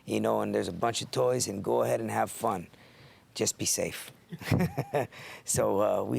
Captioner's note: laugh